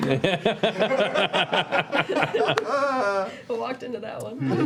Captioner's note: laughter